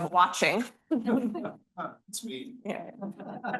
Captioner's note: students laughing